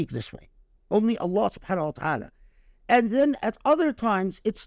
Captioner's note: speaking Arabic